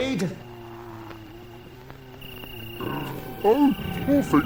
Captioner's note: zombies groaning